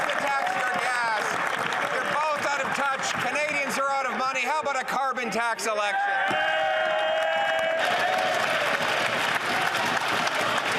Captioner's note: some Applause